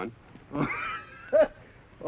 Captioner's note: chuckles